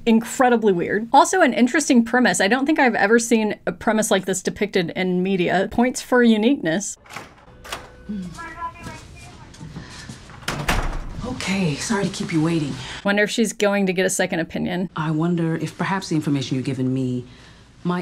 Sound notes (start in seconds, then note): 7.0 door opens; 10.4 door closes